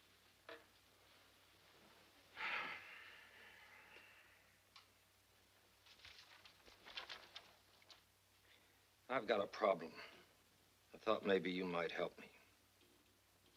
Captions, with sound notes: (paper rustling) I've got a problem. I thought maybe you might help me.